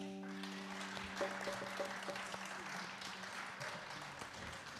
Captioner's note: audience applauds